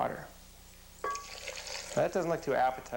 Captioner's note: pouring sounds